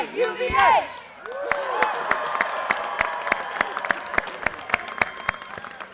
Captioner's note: audience cheers and applause